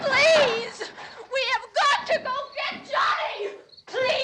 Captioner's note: screaming